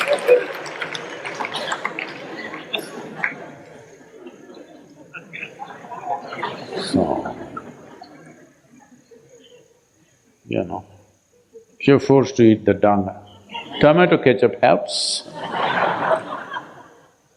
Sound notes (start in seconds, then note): 12.9 laughter